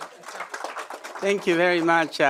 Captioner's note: applause